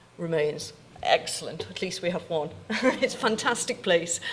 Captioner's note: chuckling